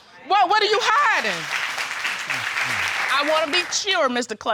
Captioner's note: audience applauding